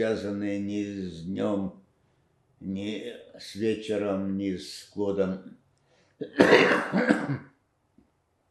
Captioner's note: coughing